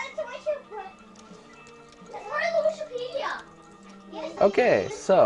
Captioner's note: typing